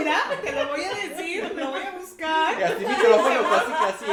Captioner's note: laughs